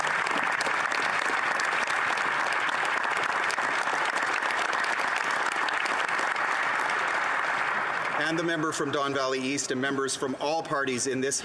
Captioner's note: applause